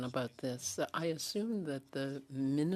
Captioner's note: speaking French